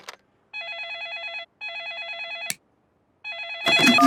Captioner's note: phone ringing